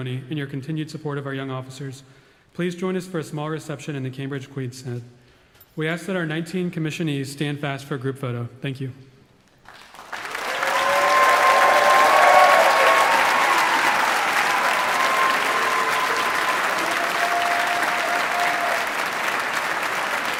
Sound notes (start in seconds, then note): 9.6 audience applauding; 10.0 audience cheering